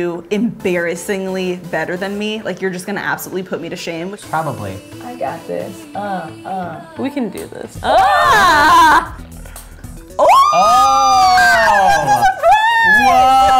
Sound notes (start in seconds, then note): 8.0 shouting; 10.1 whooping